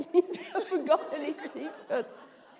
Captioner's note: laughter